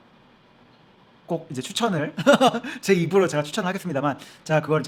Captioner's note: laughs